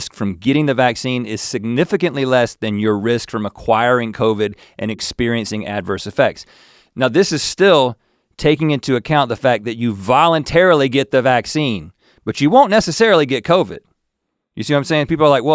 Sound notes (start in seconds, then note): none